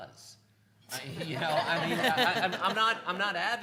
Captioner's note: laughing